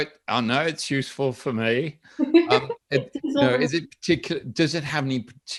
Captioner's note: laughs